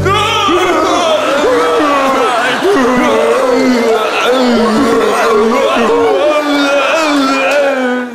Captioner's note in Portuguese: grunhidos